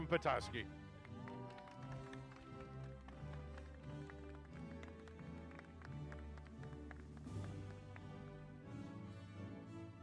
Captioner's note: applause